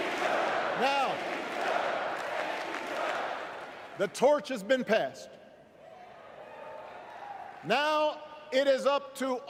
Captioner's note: crowd chanting